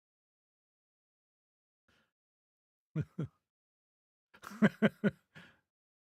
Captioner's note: laughing